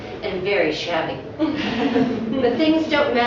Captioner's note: laughter